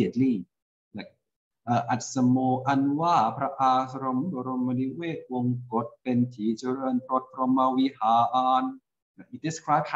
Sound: reciting in Thai

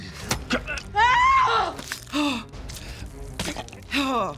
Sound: Adrian screams; blood gushing

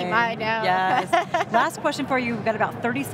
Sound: laughs

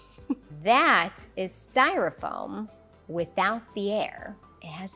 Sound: chuckles

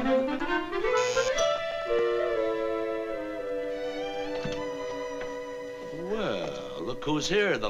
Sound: door buzzes

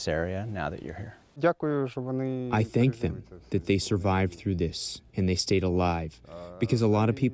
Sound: through translator

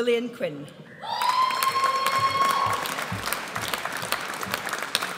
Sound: audience cheers

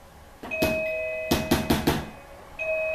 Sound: door bell

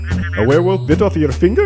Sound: phone chattering

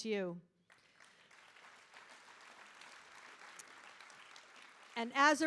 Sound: audience applauding

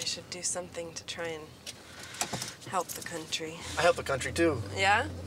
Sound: deep breath

